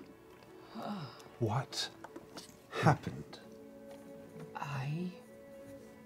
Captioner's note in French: gémit